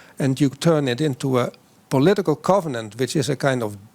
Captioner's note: none